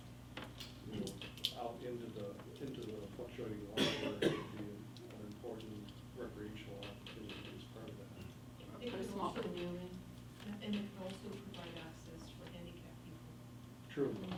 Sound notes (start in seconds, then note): 3.6 cough drowns out man